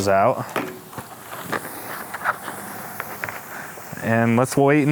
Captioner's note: food sizzling